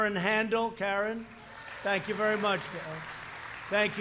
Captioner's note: applause